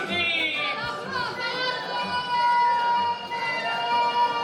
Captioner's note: cheers and applause